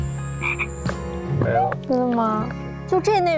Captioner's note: in a whisper